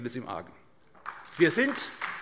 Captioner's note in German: Beifall SPD